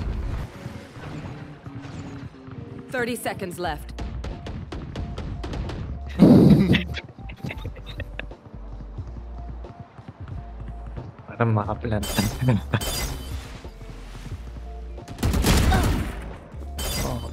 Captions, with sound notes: & *laughs*